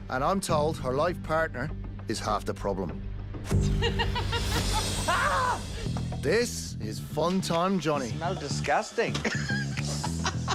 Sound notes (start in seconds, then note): 3.8 laughs; 5.0 yells; 9.1 laughs